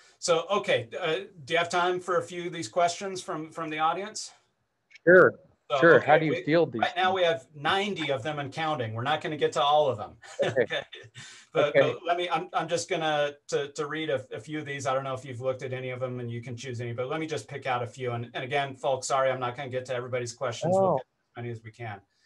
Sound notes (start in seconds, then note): 10.3 laughs